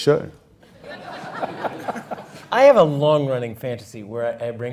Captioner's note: laugh